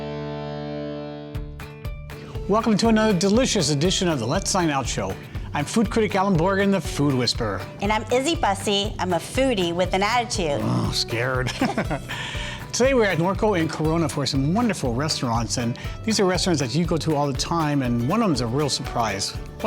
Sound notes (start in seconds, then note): 0.1 bright country music; 10.6 growls; 11.4 laughs